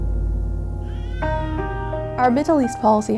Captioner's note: child crying